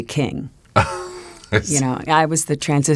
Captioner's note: laughs